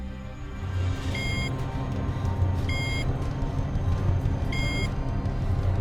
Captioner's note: elevator bell buzzing